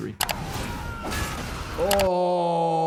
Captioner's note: screen clicking; characters shouting